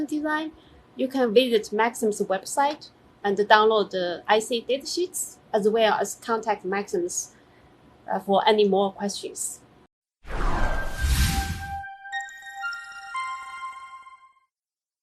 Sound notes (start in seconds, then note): 10.2 sound effect